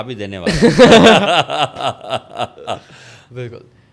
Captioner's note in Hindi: हंसी